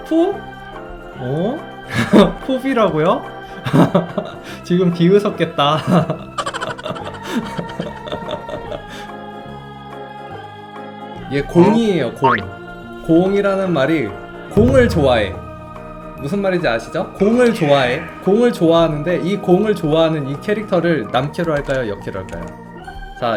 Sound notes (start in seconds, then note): 3.5 laughs